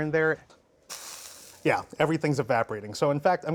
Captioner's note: sizzles